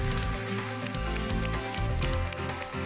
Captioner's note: applause